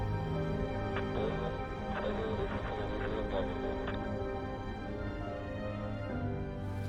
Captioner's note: man speaking in foreign language